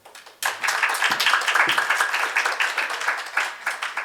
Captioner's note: audience applauds